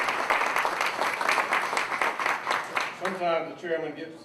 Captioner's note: applause